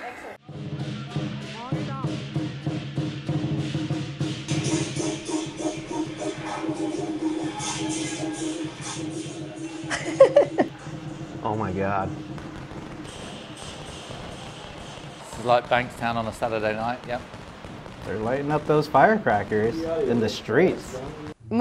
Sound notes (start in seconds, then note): 0.1 percussion music; 9.8 woman laughs; 12.7 firecrackers popping